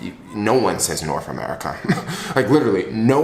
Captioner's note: chuckles